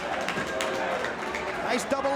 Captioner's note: spectators applauding